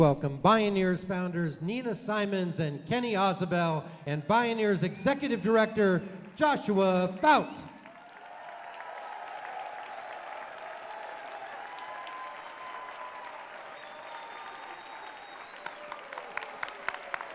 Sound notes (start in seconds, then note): 8.1 applause